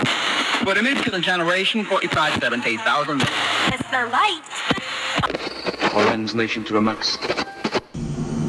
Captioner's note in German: Radioabstimmgeräusch